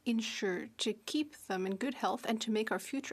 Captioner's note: speaking French